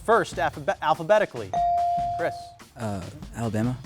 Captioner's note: buzzer dings